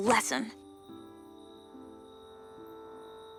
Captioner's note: crickets chirping; soft music